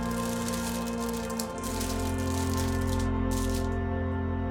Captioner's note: wrapper rustling